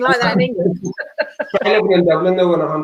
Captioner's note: laughing